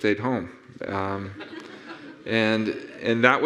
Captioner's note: audience laughing